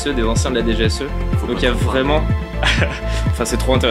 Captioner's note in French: rire